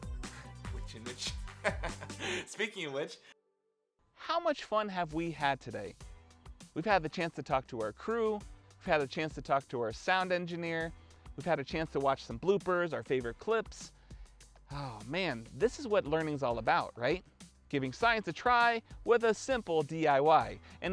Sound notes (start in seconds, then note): 1.0 laughs